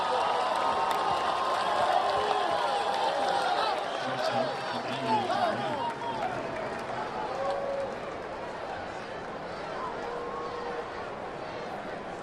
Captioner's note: cheers and applause